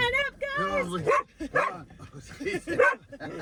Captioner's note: Camper barking; laughing